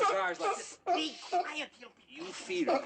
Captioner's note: barking